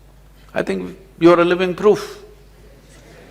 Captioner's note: laughter